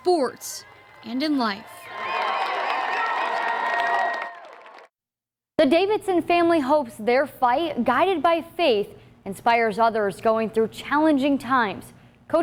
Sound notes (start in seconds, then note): 0.4 cheering